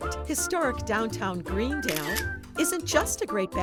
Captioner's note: camera snapping photo